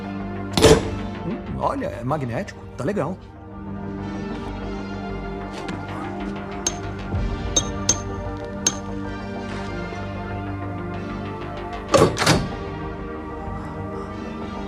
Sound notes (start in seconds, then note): 0.5 clangs; 6.6 clicking